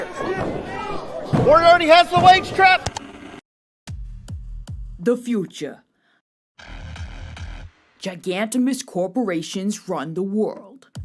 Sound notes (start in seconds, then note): 2.9 ka-chunk; 2.9 static